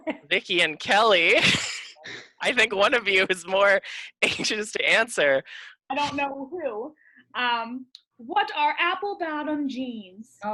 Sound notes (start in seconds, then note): 6.6 sarcastically